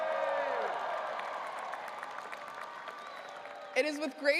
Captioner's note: audience cheering and applauding